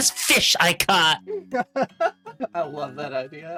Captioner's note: laughing